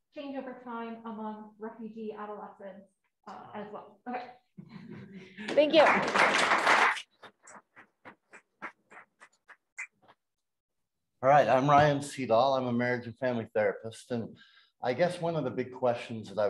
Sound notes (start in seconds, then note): 5.4 applause